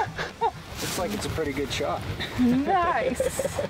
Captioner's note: both laughs; laughs